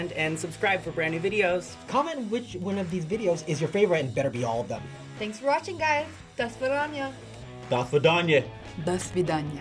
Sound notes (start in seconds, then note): 8.2 in "Russian" accent